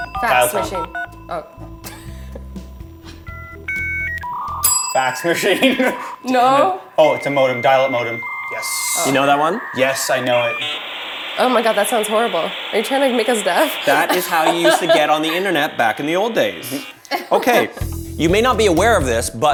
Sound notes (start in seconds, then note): 0.0 bell rings; 0.1 dialling sound; 2.2 laughs; 3.0 beeping sound; 3.3 bell rings; 5.6 laughs; 10.4 whooshing modem noise; 17.0 laughs